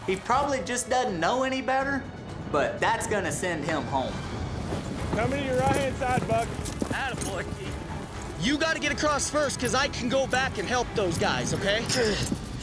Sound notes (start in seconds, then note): 5.0 cowboys shouting